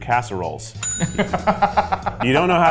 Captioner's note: bell pinging; laughing